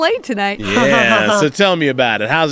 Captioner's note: laughs